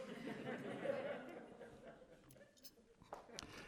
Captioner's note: laughter